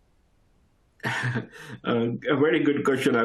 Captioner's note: laughs